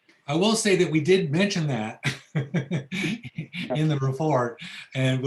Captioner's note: laughs